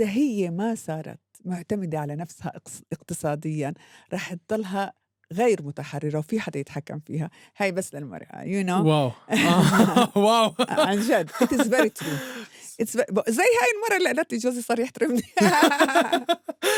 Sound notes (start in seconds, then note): 9.3 both laughing; 15.3 both laughing